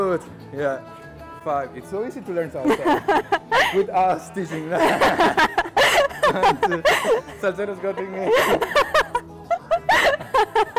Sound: laughing

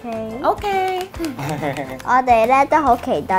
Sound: laughing

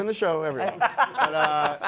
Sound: laughs

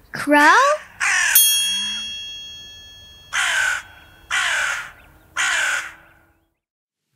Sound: bell dings; crow cawing

